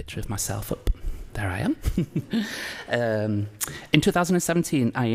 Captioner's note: laughs